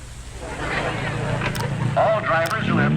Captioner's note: crowd clamoring